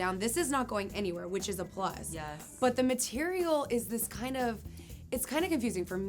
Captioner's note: none